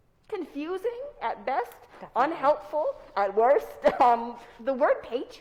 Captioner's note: chuckles